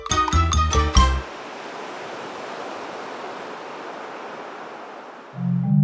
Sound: ocean waves crash

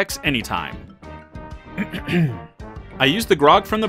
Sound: clears throat

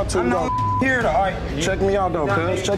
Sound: beep

